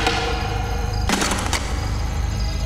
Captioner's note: Pounding